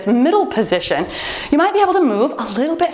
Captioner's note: timer beeps